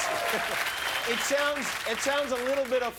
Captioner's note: laughter